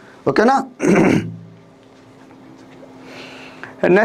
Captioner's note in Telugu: గొంతు సవరించుకోవడం